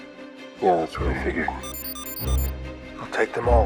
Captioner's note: beeping